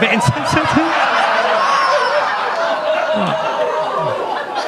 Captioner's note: audience laughs; laughs